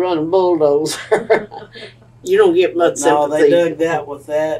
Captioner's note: laughs